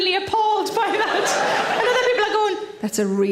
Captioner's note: audience laughs